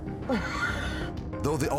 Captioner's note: laughs